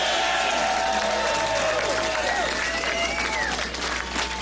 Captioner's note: applause